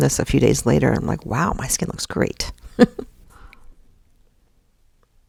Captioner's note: chuckles